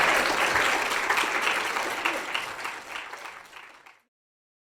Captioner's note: applause